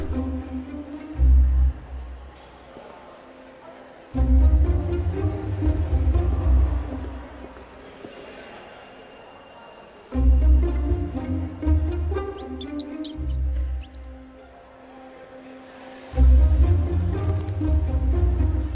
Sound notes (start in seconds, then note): 13.7 bird chirping; 16.7 wings flapping